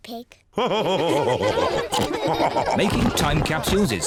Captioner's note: all laugh